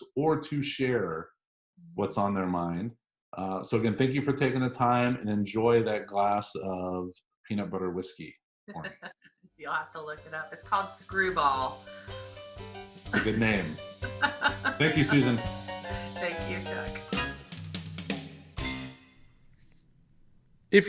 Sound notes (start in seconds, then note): 14.0 laughing; 17.0 big band instrumental